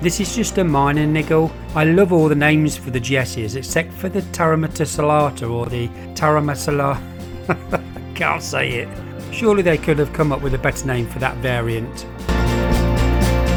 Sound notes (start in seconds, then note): 7.2 laughing